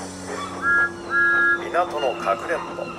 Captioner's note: thomas whistles